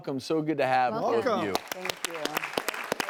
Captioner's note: audience applauding